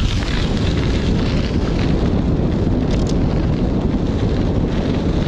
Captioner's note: wind rustling